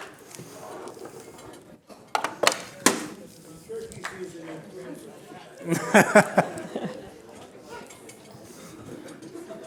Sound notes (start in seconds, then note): 5.6 laughter